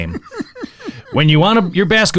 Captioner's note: laughs